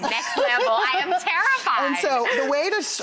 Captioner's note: instructor laughs